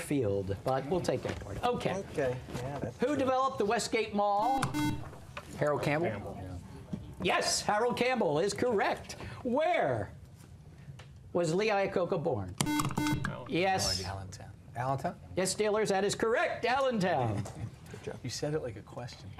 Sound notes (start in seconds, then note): 2.8 buzzer; 10.9 buzzer